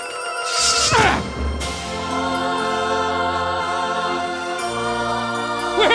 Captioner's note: grunting